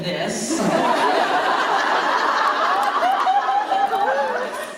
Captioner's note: laughter